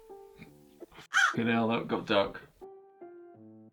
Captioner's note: crow call